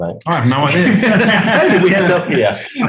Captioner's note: group laughing